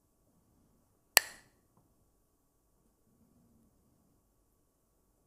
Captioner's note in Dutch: klakt met stokjes